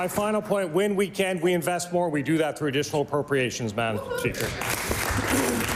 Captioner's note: applause